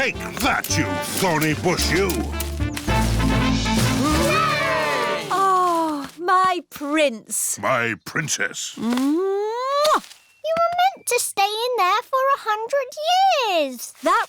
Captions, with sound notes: Take that, you thorny bush, you! -(ALL CHEERING) -Oh, my prince! -My princess! -(KISSES) You were meant to stay in there for 100 years.